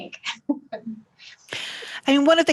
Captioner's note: chuckles